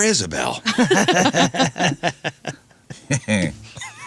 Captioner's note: laughing